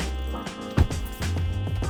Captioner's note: door thuds